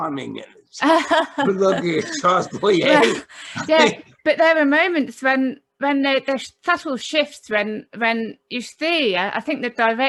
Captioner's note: laughter